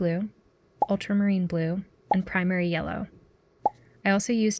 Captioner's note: pop sounds